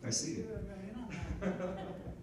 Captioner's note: speaking quietly; people chuckling